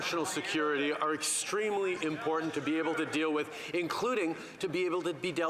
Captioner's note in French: voix de l'interprète